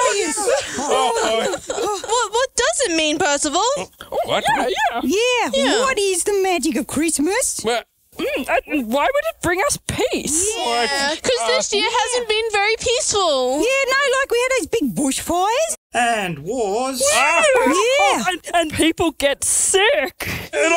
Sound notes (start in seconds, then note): 0.0 puppets laughing; 7.7 Percival stuttering